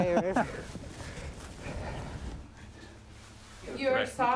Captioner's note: laughs